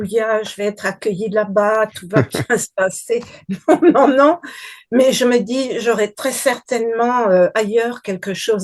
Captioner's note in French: rires